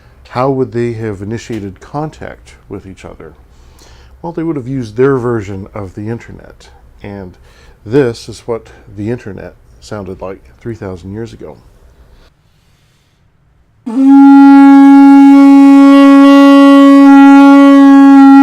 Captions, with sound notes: How would they have initiated contact with each other? Well they would've used their version of the internet and this what the internet sounded like three thousand years ago. (horn blowing)